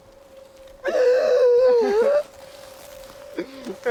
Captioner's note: gasps